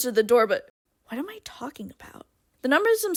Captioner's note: quietly